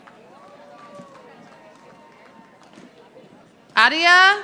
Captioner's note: audience applauding